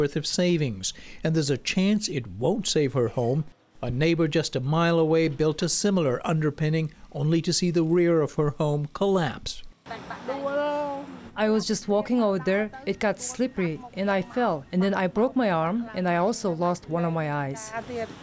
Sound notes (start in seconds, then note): 10.6 through translator